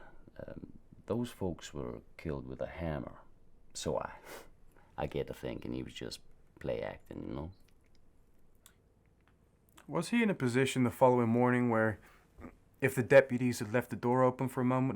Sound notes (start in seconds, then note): 4.1 scoffs